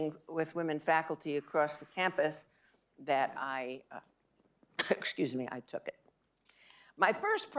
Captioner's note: coughing